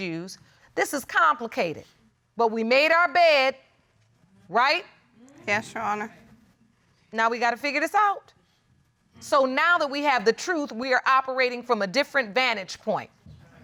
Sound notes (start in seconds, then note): none